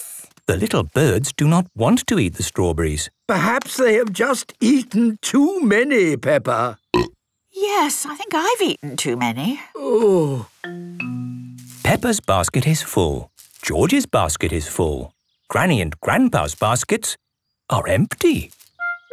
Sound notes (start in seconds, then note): 6.7 burp